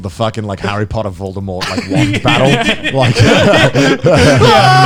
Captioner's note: laughing